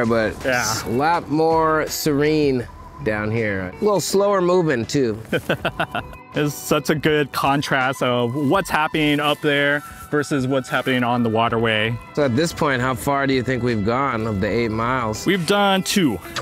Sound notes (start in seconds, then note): 5.3 laughs